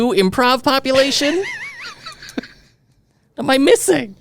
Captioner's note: laughing